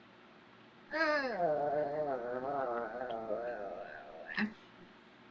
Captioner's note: groans